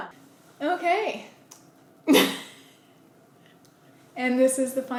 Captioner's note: laughter